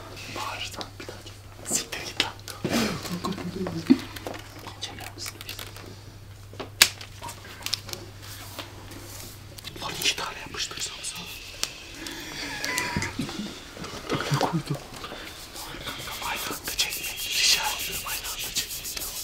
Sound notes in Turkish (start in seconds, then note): 5.0 ağda çıkarma sesleri; 6.8 yapıştırma sesleri